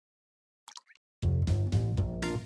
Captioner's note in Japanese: ポチャン